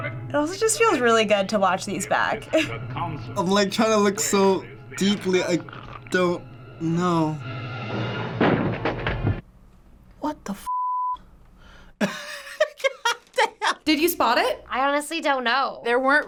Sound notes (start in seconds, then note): 2.4 chuckles; 12.0 laughs